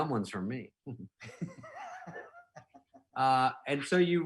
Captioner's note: laughing